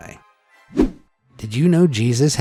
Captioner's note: image whooshing